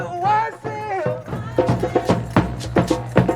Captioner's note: crowd